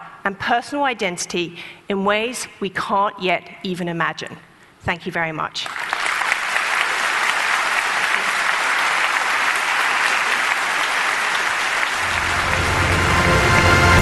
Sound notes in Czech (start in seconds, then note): 6.7 Potlesk